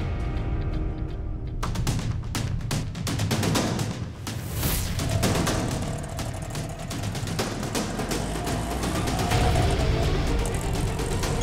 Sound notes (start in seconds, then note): 1.4 tense music playing; 8.6 engine whirring